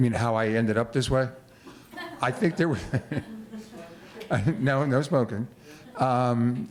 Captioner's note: laughter